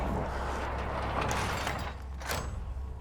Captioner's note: clanking